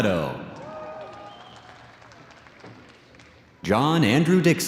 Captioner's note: audience cheers and applauds